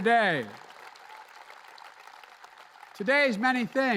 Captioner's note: applause